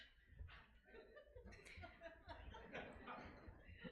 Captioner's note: laughing